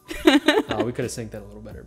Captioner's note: laughing